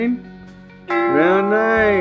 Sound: clock chiming

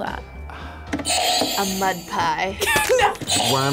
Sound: buzzer rings; buzzer rings

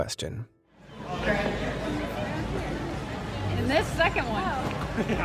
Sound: chattering

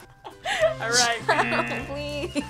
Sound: laughs

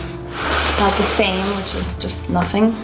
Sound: drawing paper scrapes

